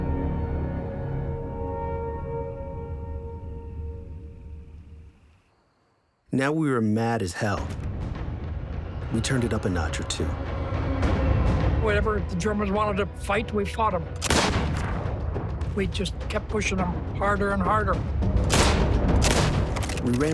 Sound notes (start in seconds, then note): 14.2 gunshot; 18.5 gunfire